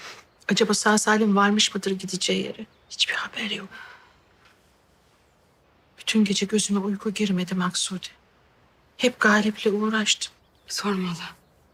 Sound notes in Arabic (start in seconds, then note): 4.2 يتنهد